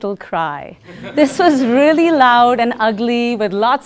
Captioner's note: laugh